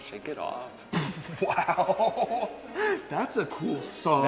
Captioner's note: laughs